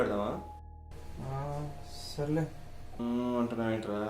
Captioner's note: with hesitation